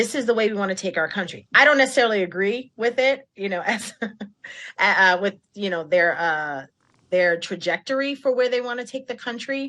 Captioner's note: laughter